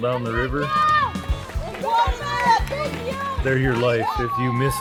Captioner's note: shouting